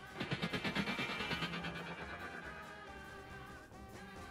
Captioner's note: echoing sounds